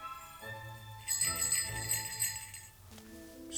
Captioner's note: jingling bells